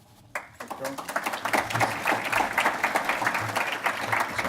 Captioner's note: audience applauds